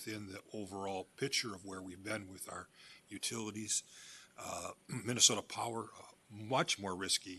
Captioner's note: clears throat